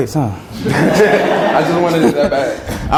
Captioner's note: students laugh